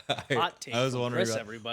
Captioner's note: laughing